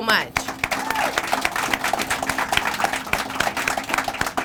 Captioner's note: crowd applauding